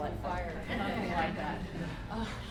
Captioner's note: laughter